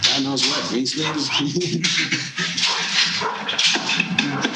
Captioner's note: laughing